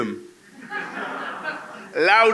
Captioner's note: laughter